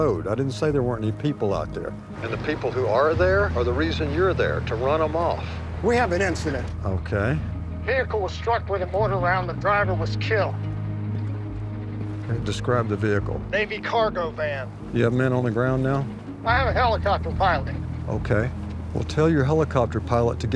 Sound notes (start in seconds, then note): 7.7 on phone; 13.6 on phone; 16.3 on phone